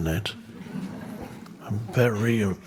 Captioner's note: crowd laughs